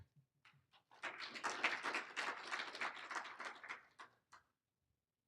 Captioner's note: applauding